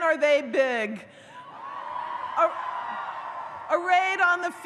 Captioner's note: audience cheers